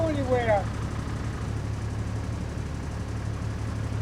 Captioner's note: motor humming